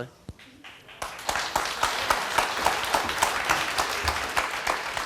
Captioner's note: audience applauding